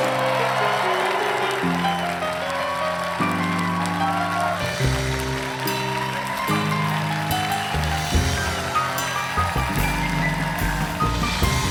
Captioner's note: applause